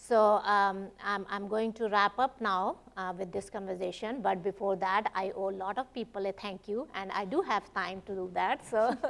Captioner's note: laughs